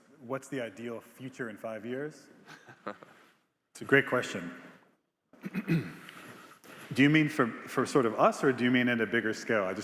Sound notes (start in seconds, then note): 2.6 Biz laughing; 5.4 clears throat